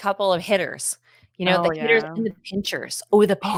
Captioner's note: speaking faintly